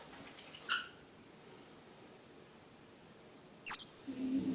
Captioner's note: A sounds from dad's teeth